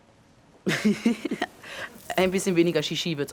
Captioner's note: Phil speaking in foreign language; Phil laughing; Phil speaking in foreign language